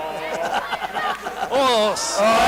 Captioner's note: laughs